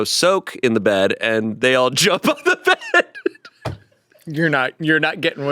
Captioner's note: laughs